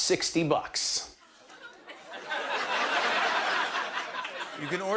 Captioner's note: laughter